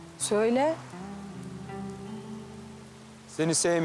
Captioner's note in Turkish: none